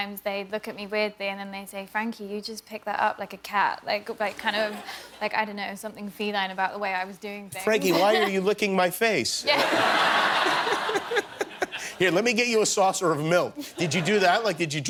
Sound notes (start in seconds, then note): 9.5 laughter